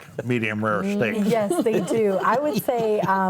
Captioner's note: panelists laughing